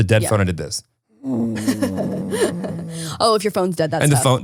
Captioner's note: snoring